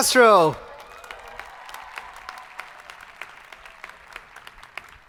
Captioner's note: crowd applauding